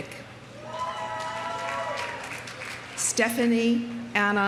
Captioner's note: audience cheering; audience applauding